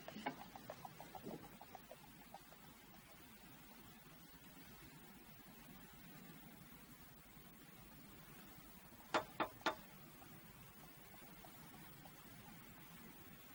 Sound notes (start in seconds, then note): 9.1 taps